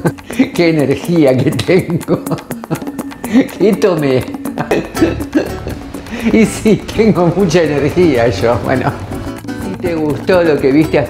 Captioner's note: laughs